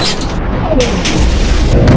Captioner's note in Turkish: güm